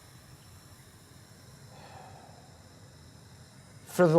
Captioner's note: sighing